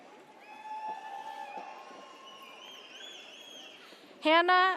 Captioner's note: audience cheers